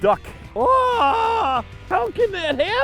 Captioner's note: screams